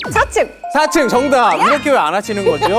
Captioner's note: ding-ding